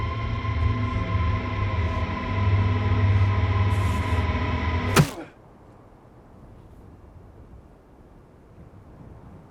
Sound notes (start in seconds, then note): 4.8 bat whacking; 5.8 wind blowing